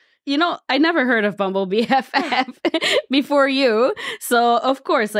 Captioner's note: laughs